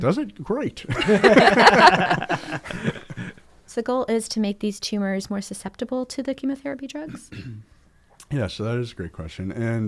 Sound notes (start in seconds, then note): 0.9 all laugh